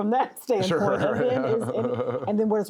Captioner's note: laughs